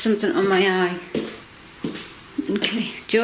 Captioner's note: footsteps